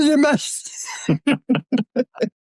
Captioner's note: laughs